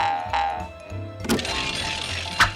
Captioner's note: bell ringing